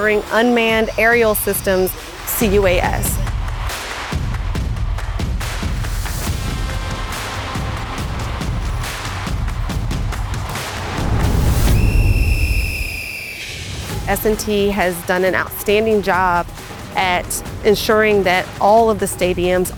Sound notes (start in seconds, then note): 11.1 whistle sound